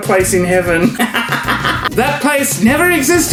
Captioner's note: laughs